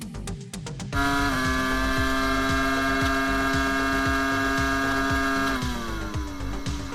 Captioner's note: upbeat music; car engine roaring